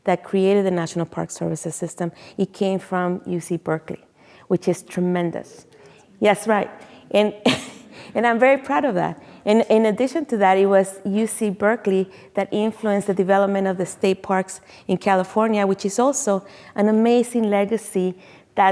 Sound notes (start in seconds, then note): 7.5 chuckles